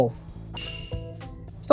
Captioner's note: bell dings